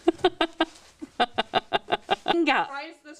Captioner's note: laughter